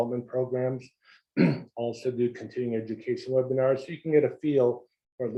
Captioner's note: cough